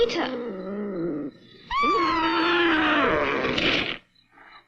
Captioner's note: screams